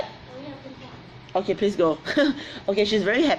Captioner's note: laughs